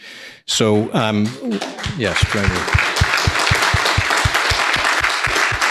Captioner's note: people applauding